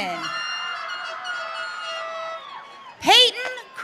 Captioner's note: audience cheering